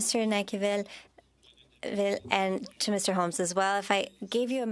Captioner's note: speaking French